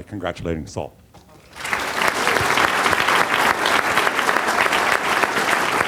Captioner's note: applause